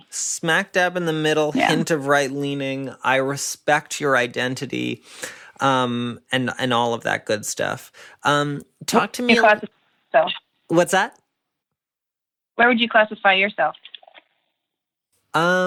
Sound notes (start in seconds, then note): 8.8 voice breaks up